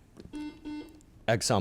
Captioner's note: buzzer chimes